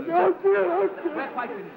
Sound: sobbing

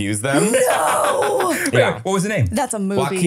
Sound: laughing

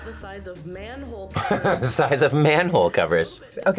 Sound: laughs

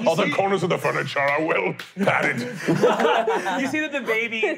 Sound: laughing

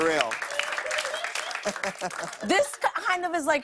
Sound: laughter

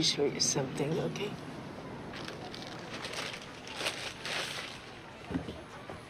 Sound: bag rustling

